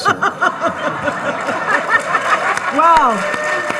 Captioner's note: all laughing and applauding; laughing